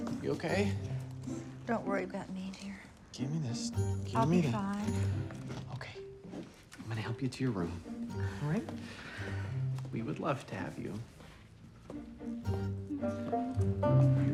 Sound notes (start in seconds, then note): 5.6 sighs; 8.8 sighs, fraught